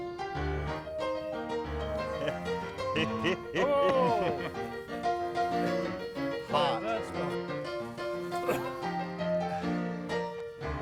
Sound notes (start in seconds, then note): 0.0 upbeat piano music; 2.0 chuckling; 4.6 upbeat piano music; 7.6 upbeat piano music